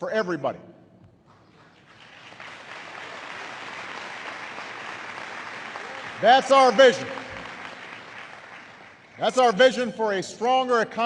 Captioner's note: applause